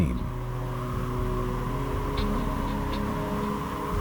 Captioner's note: wind whistling